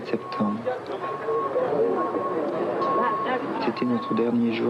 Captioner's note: S. Klau in French; crane beep and murmurs; S. Klau in French